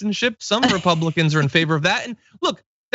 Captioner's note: laugh